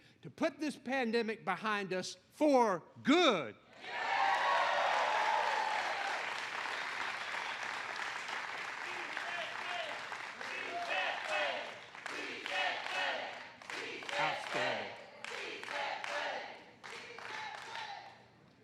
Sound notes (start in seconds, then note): 4.1 applause